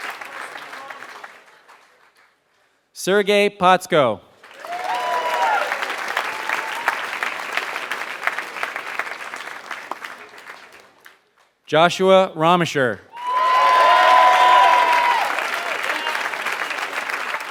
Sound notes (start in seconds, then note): 4.4 applause; 16.9 applause